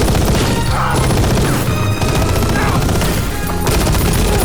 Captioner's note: grunting